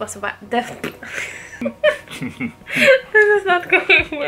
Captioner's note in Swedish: Skratt